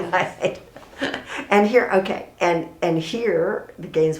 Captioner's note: laughs